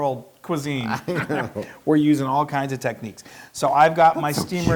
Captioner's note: laugh